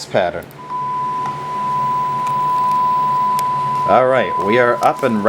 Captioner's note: mouse click followed by a 1kHz tone